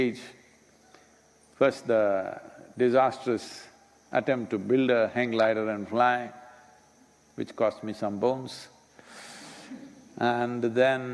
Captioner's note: laughter